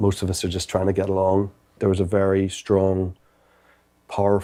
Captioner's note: none